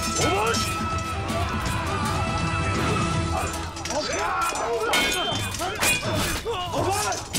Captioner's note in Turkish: Çarpışma sesleri